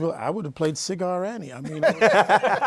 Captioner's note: laughter